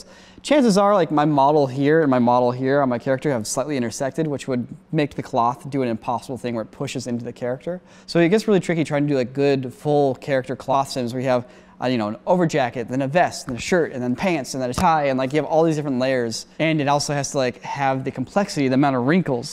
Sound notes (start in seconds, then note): none